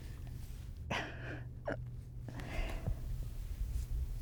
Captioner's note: sobbing